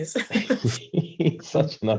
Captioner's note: Freddy laughs